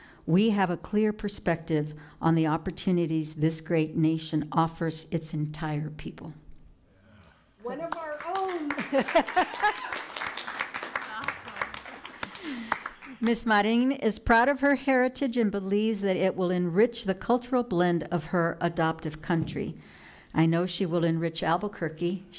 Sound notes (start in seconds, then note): 8.6 laughing; 9.6 cheering and applauding